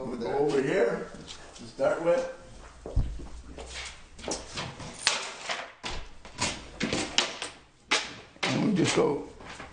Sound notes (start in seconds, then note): 1.3 voiceover